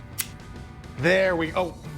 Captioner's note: scissors snipping